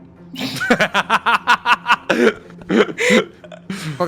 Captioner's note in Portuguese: Risos